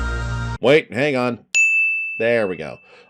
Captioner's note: ding